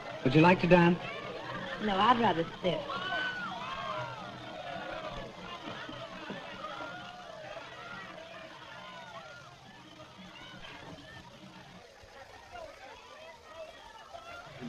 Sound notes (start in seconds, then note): 3.1 crowd reveling